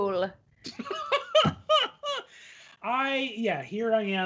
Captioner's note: laughing